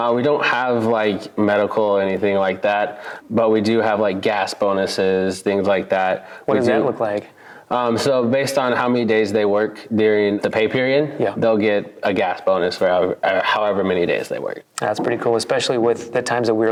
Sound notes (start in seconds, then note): none